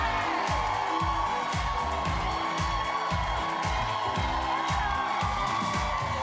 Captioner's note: cheers and applause